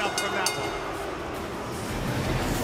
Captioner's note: bell ringing